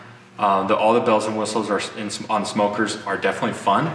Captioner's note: stutters